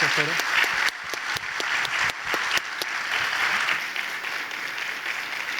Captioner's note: audience applauding